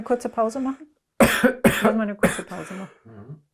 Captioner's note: coughing